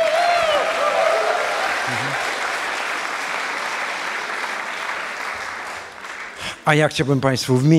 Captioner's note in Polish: aplauz